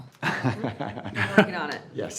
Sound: chuckling

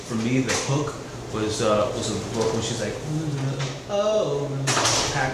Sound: humming

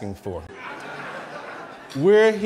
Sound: laughing

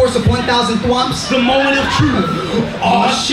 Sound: crowd laughing

